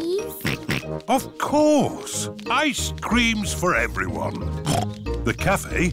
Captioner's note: snorts